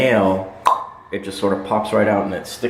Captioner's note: pop